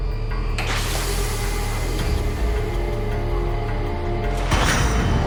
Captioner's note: door whirring